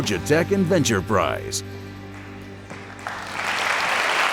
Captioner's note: cheers and applause